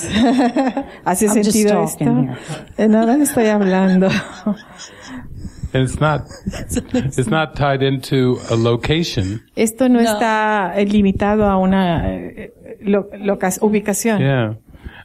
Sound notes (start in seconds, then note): 2.8 laughing